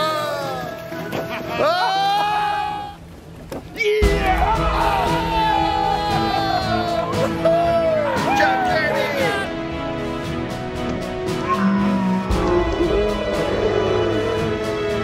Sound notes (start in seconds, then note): 5.6 everyone cheers